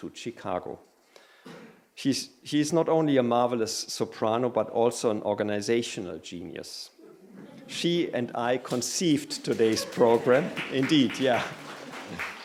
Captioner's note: laughter. Applause; applause